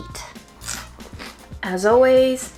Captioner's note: cucumber crunching